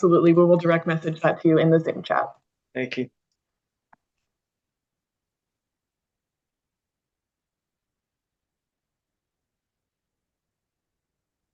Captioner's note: pause